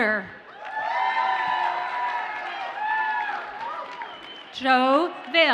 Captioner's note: audience cheers and applauds